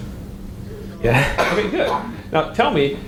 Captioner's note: chuckles